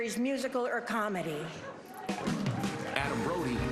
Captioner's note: laughter